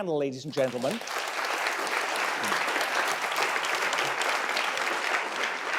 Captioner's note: audience clapping